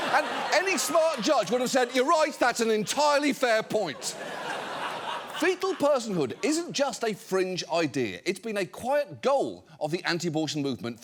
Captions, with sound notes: and any smart judge would have said, "You're right, that's an entirely fair point." (AUDIENCE LAUGHING) Fetal personhood isn't just a fringe idea. It's been a quiet goal of the anti-abortion movement